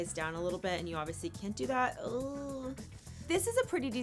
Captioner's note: groans